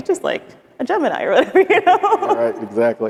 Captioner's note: laughs